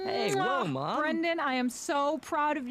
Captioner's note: kissing loudly